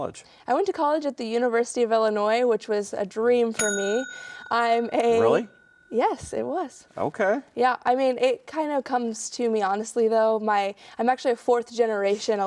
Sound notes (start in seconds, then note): 3.5 bell dings